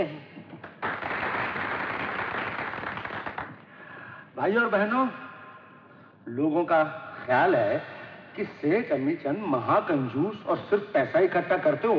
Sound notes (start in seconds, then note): 0.6 crowd Applauding